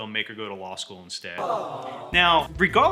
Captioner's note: sad audience sound